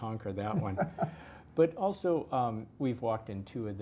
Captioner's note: laugh